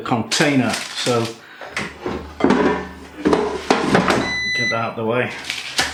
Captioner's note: clunk; beep